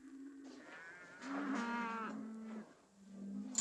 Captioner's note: cattle mooing